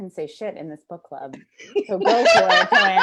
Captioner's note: laughter